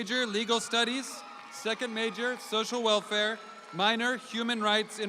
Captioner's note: audience applauding